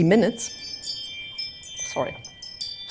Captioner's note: ringing